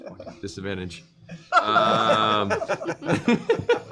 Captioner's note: laughter